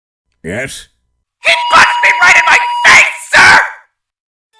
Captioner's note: megaphone blaring